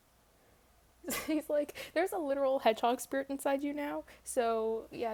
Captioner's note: laughs